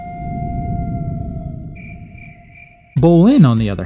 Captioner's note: crickets chirp